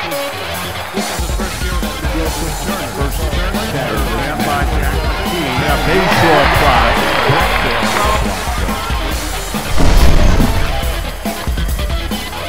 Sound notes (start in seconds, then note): 1.3 commentators talking; 1.3 crowd cheering